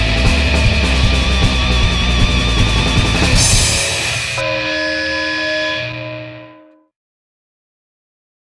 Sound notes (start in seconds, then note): 4.0 bong